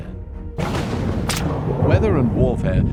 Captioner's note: thunder roars